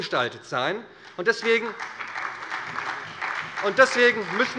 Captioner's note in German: Beifall bei der SPD